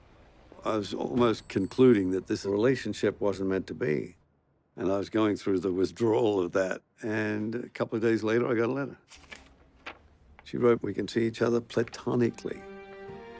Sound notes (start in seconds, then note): none